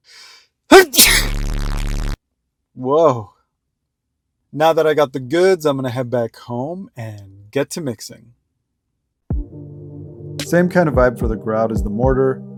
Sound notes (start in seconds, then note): 0.7 sneeze